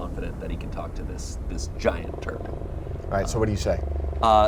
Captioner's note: creature growls